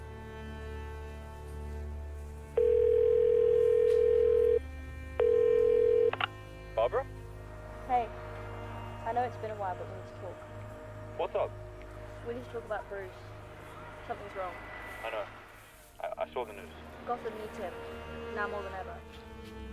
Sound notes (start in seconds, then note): 2.7 phone ringing sound